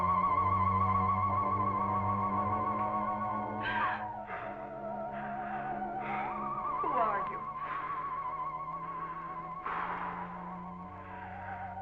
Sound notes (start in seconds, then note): 3.6 Barbara gasping; 7.4 Phantom breathing heavily